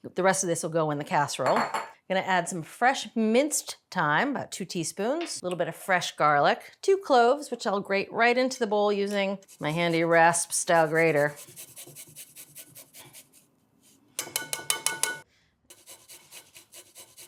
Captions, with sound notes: The rest of this will go in the casserole. Gonna add some fresh-minced thyme, about two teaspoons. A little bit of fresh garlic, two cloves, which I'll grate right into the bowl using my handy rasp-style grater. (garlic scratching)